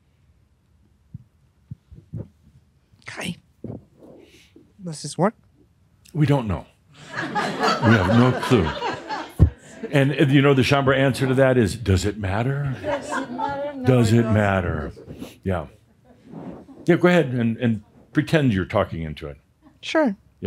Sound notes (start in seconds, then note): 7.0 laughter